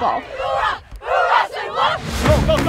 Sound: girls chanting

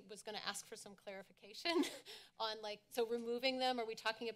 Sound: chuckles

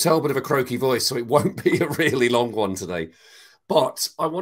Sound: laughs

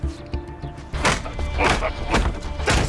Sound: grunts

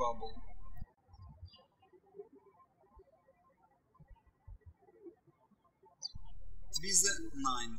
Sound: birds chirping

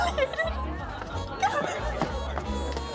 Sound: sobs

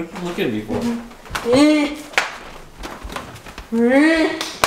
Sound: clapping

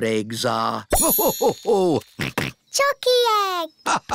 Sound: laughing

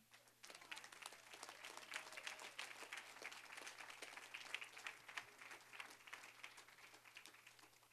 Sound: applause

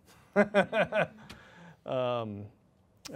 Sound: chuckles

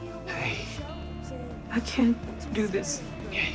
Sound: voice breaking

